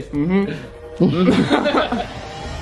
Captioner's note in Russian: угорают